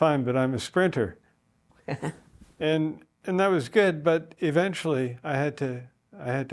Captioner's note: laugh